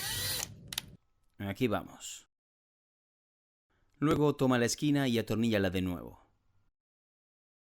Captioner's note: Se oye el taladro